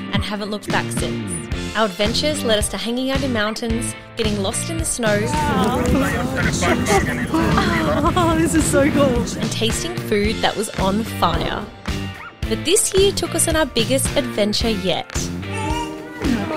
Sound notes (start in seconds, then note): 0.1 upbeat music; 5.2 laughs; 5.9 radio beeping